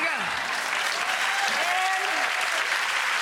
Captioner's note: audience cheering